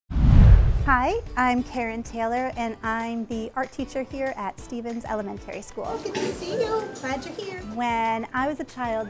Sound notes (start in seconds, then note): 0.1 digital Woosh